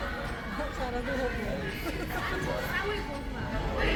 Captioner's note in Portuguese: risos